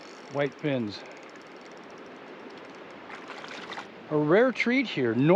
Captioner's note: fish splashing